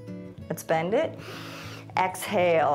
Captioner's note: exhales; inhales